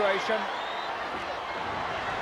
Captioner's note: applause